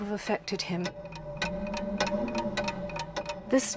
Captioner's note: clock ticks intensely